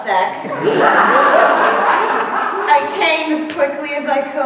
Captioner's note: laughter